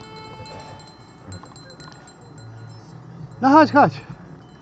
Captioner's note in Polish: dźwięk dzwonka